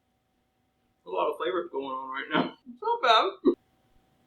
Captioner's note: laughs